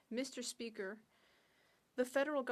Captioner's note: speaking in French